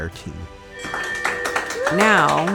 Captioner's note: all applauding and cheering; bell ringing